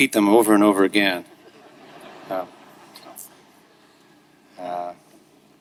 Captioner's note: audience laughing